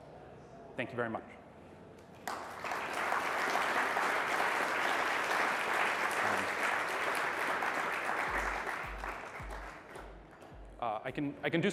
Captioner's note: applause